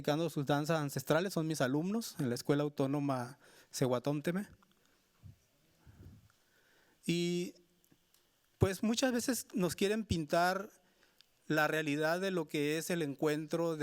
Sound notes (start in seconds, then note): 1.3 speaking Spanish continues